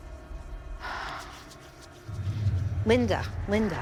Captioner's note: exhales deeply